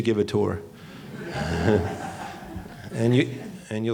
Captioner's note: laughing